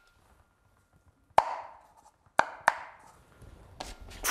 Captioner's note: tapping